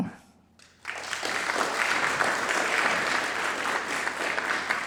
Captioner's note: audience applauds